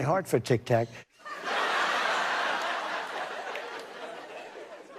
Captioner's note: laughter